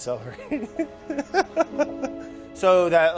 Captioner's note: laughter